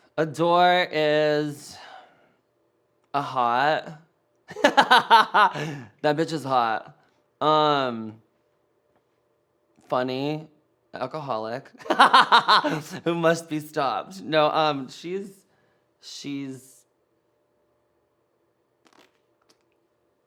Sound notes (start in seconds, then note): 11.9 laughs